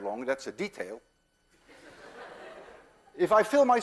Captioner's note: class laughs